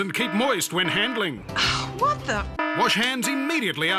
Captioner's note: sighs